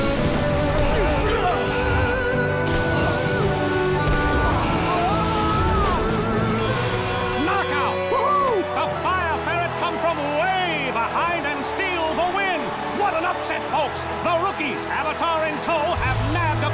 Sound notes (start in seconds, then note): 0.4 groaning; 4.8 screaming; 6.0 dinging